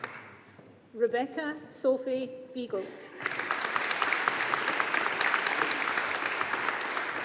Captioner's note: audience applauding